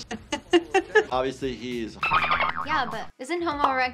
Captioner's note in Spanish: Risas; chirridos de delfines